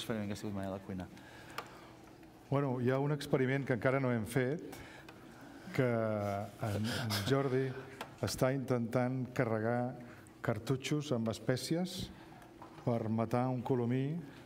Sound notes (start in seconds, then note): 0.0 speaking catalan; 6.1 speaking catalan